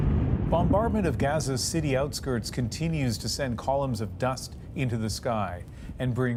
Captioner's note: bombing